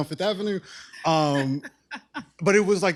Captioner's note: laughs